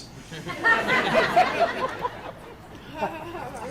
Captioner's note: laughter